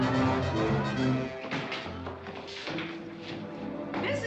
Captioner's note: doors bursting open